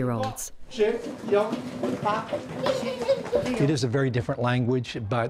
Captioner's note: speaking Mandarin